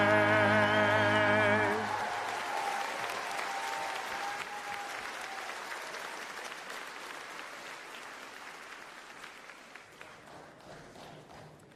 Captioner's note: applause